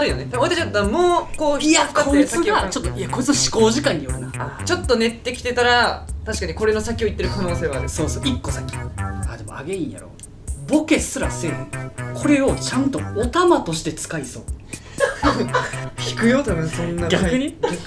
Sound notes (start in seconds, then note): 15.0 laughs